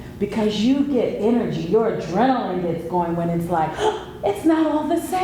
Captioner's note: gasp